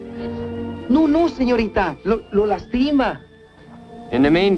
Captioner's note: speaking spanish